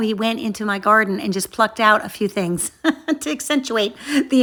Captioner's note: chuckles